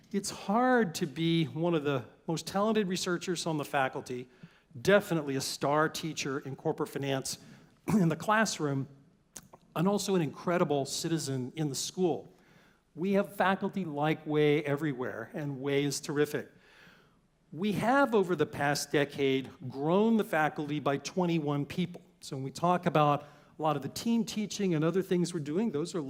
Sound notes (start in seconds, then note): 7.8 cough